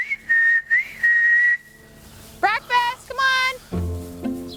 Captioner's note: whistling